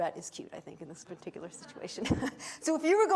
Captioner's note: chuckles